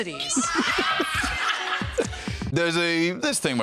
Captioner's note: laughs